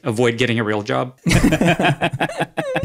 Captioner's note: all laugh